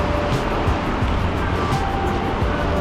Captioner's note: wind Blowing